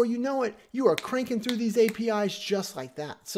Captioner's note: snapping fingers